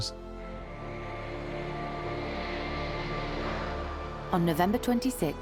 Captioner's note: tense pensive music; aeroplane whooshing